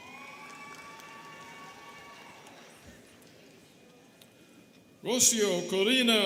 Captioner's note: students cheering and clapping